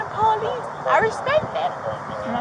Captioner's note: radio chatter